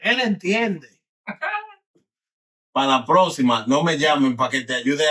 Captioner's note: speaking In Foreign Language